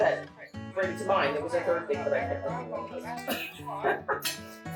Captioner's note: laughs